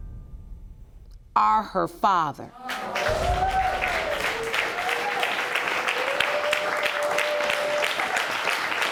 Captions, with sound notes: Are her father. (AUDIENCE CHEERING)